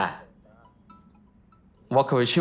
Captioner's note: phone chimes